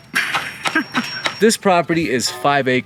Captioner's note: woman laughing